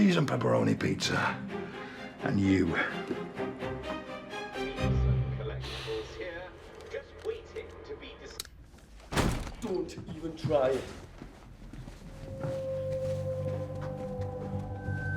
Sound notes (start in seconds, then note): 6.3 man on TV; 9.0 door slams